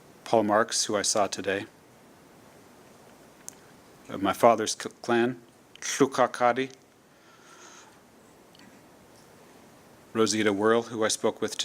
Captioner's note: speaking tlingit